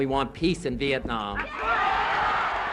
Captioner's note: cheers